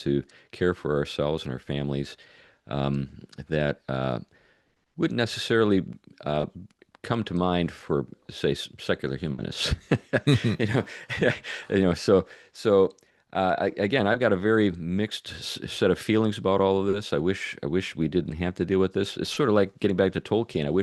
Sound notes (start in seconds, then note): 9.6 laughs